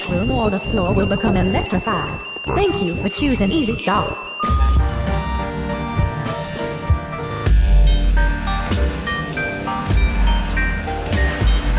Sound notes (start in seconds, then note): 7.4 bass heavy music; 7.4 digital noise abstraction